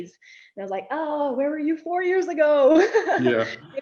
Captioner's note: sighs